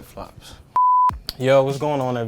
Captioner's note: beep